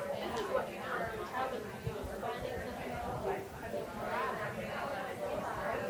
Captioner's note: people chattering continues